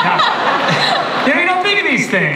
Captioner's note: laughter